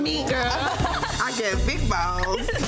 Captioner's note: women laughing